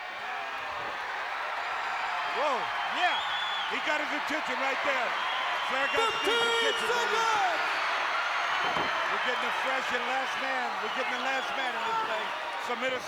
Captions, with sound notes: (crowd cheers) Whoa. Yeah! He got his attention right there. 15 seconds! We're getting a fresh and last man. We're getting the last man in this place.